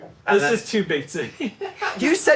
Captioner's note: laughs